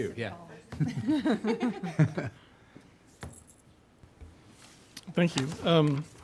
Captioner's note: group laughing